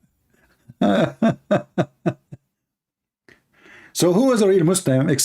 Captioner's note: Ketawa